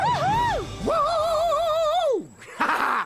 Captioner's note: cheering